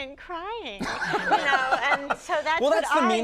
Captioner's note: Conan laughing